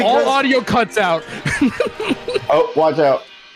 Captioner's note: laughs